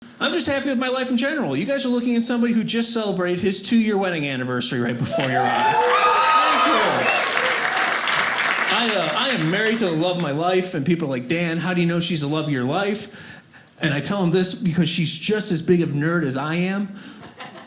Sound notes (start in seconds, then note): 7.3 audience cheers